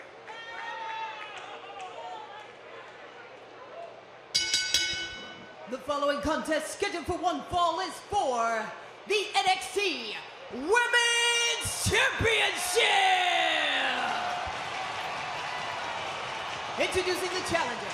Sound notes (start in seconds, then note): 0.1 crowd chatter; 4.3 bell ringing